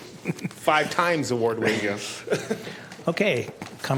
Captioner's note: laughing